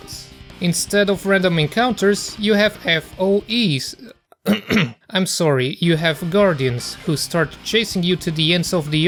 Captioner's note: ahem